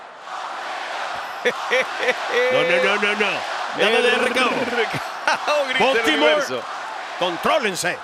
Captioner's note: laugh